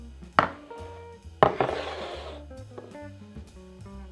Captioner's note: bowl sliding